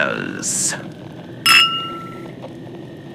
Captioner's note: mugs clink fx